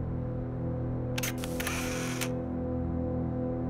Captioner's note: camera click